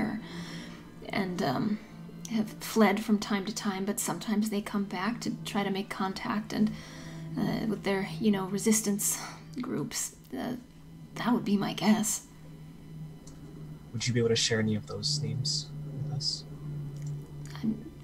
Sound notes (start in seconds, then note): none